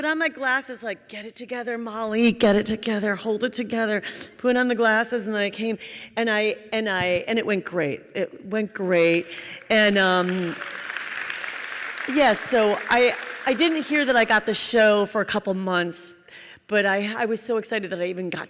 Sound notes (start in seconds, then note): 9.8 audience applauds